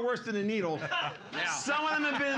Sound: laughing

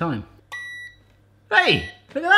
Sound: electronic beeping

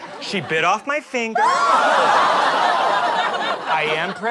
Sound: screams

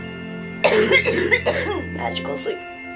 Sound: coughing

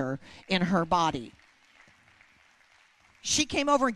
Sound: applause

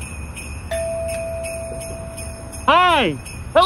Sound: door bell rings

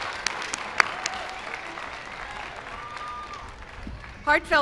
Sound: cheers and applause

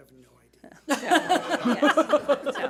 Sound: people laughing

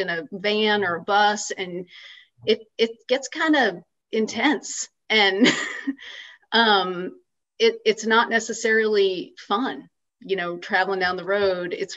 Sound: laughs

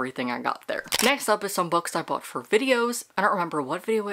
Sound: camera Shutter

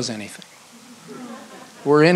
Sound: audience laughs

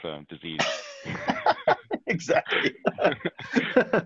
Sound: laughing

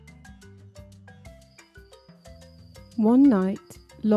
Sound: crickets chirping

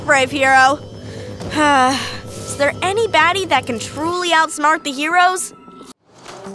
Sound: sighs

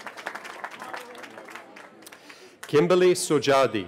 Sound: cheering

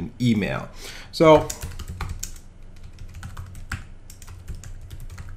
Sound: keyboard clicking

